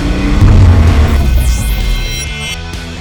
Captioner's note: revving engine